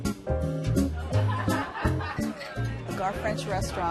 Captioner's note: laughter